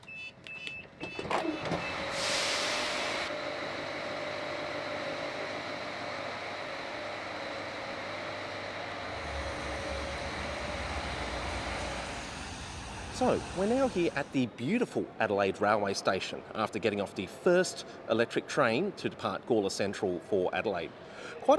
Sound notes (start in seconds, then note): 0.0 door beeps; 3.0 train engine hums